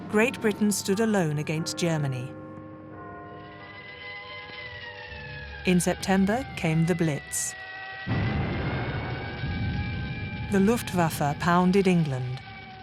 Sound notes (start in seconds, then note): 2.5 bell tolls; 3.7 sirens wail; 8.0 explosion booming